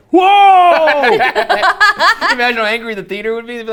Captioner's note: laughing loudly